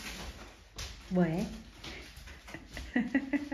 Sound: laughs

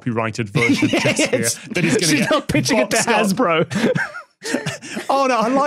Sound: giggles

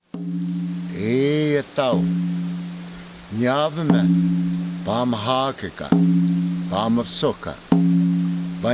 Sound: Chant in Havasupai Language

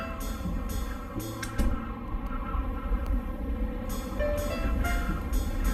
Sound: winds howling as door closes shut

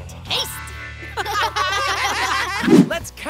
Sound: laughing

